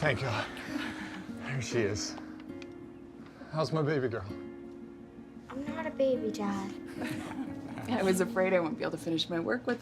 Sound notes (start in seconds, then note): 6.8 Karen laughs